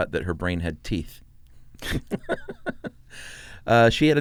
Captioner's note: both laugh